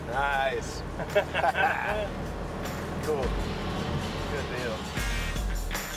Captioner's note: laughing